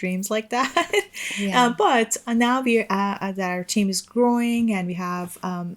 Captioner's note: chuckles